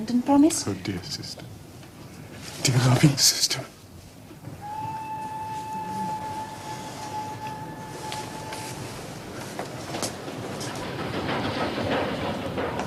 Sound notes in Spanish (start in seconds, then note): 4.6 Suena el silbato del tren